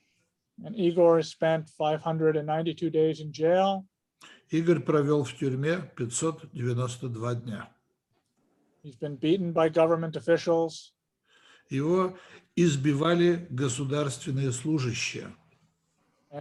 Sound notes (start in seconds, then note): 4.7 translator speaking Russian language; 11.8 translator speaking Russian language